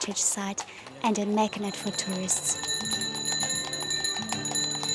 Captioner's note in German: Glocken läuten